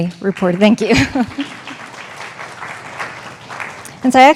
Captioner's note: audience applauding